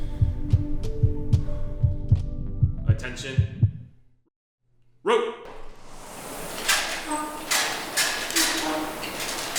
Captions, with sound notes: [deep exhale] [heartbeat races] Attention. [heartbeat races] Attention. [heartbeat stops] Row! [rowing machines spin and click]